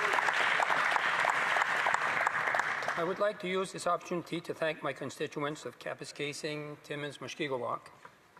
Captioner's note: some Applause